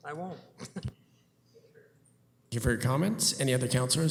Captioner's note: laughter